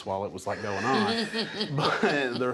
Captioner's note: laughter